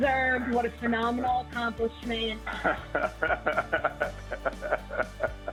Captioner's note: laughter